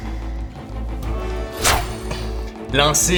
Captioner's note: whoosh